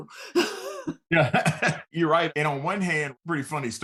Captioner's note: laughing